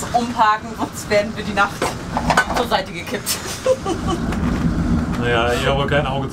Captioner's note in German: lacht